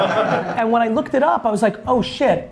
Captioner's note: laughs